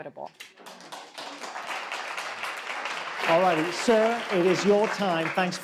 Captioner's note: audience claps